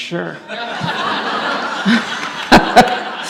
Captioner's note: audience laughs